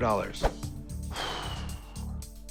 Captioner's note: exhales